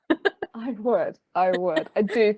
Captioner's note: laughing